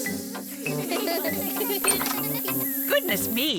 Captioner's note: all laugh